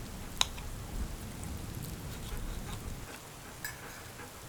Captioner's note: utensils clanking